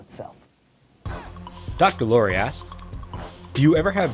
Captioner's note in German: Voice-over